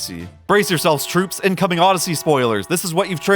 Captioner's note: alarm blaring